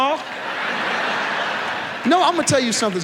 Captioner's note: audience laughs